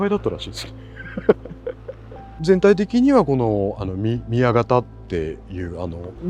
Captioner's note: laughs